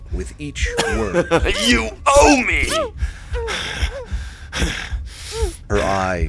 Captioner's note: emphatically, three slicing sounds; muffled cries from Ilani, Vullian grunts and pants from effort